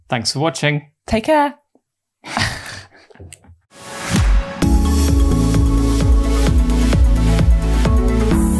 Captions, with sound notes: - Thanks for watching. - Take care. (laughter) (upbeat electronic music)